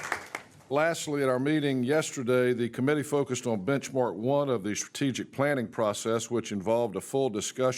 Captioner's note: applause